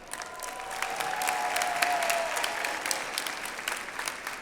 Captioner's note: audience applauds